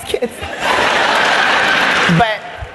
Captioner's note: laugther